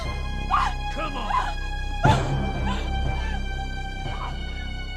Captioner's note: Nellie screams